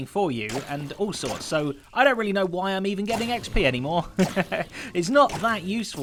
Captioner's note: chuckles